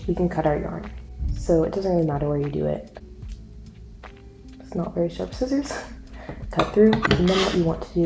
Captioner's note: scissors cut